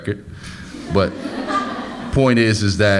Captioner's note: audience laughs